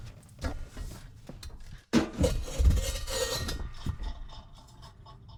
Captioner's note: canister thunking